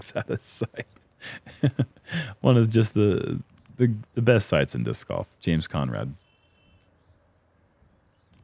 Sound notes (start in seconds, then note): 1.2 chuckles